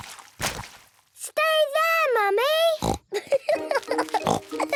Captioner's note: laughing